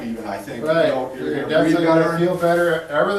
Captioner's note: talking in unison